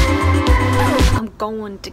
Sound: record scratches

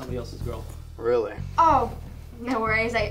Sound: Sammy under his breath

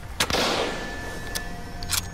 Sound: gunshot

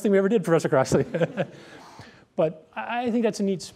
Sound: laughter

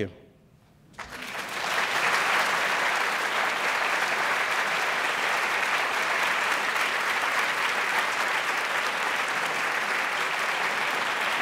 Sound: applause

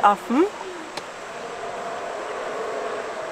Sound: monkey roar

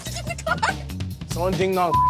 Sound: girls giggling

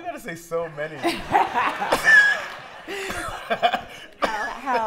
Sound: laughter

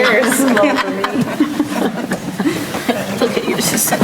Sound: group laughing

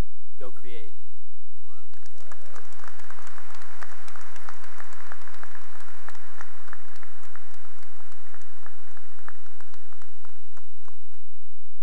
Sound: cheering and applause

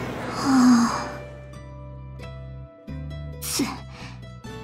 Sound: sigh

